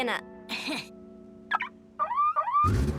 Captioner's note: Milo chuckles; remote beeps; bike engine revving